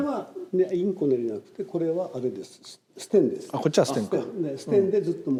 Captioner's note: speaking in Japanese